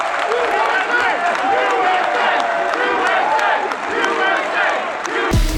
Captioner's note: crowd chanting USA